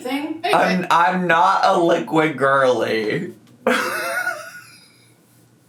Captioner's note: laughs